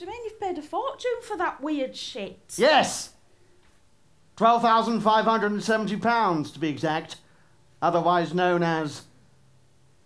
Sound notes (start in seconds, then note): none